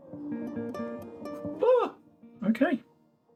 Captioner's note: gasping